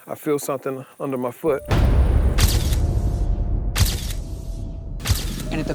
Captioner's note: shutter flashing; dramatic music